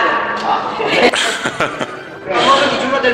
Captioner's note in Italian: Risate